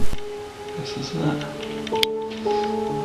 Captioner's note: whispers